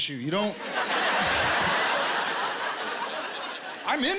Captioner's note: laughter